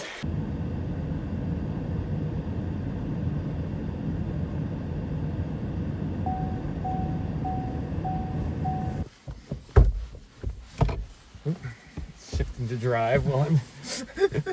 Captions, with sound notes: [car heater blowing] [car door opens] Oop. Shifted into to drive while I'm...